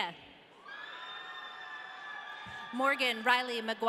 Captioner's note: audience cheering